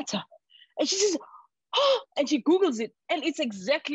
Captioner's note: gasp